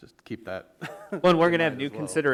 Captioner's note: laughs